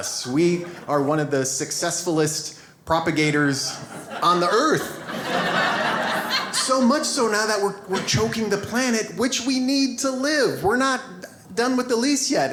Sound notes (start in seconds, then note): 3.6 audience laughs